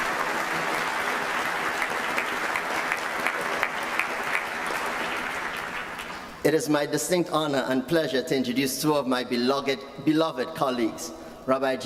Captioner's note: applause